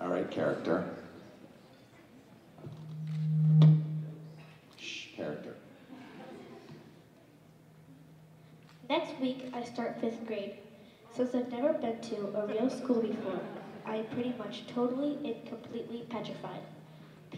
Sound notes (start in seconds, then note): 2.5 low mic feedback